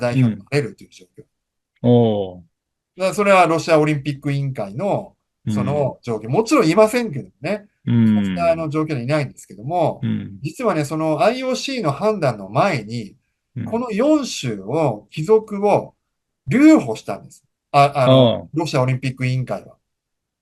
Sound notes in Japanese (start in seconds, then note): 5.5 咳払い; 10.0 咳払い